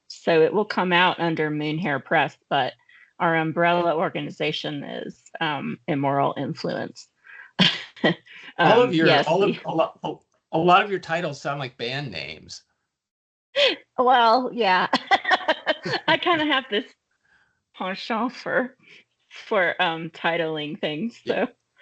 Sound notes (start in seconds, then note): 8.5 chuckling; 14.9 laughing